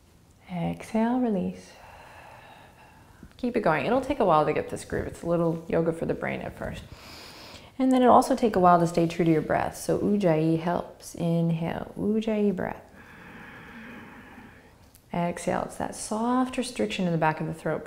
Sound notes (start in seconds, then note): 1.7 exhaling; 12.9 inhaling